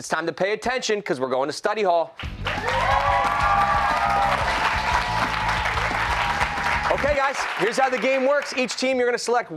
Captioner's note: cheers and applause